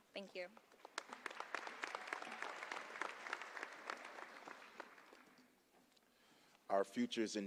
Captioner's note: applause